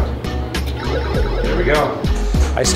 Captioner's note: pinball machine whoops